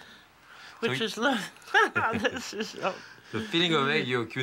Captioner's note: laughing